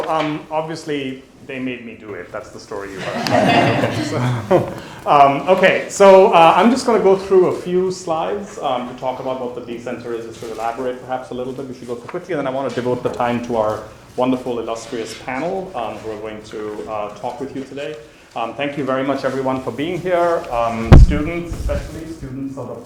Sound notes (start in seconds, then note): 2.8 audience laughing